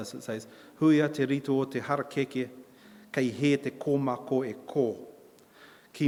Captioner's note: in Maori